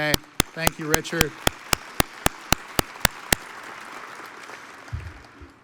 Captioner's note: audience applauds